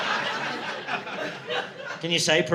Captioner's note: audience laughing